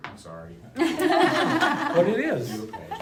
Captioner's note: laughing